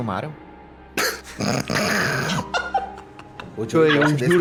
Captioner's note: laughing